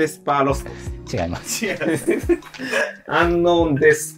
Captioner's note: laughing